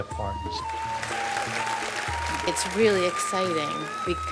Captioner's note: applause